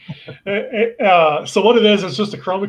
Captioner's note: laughing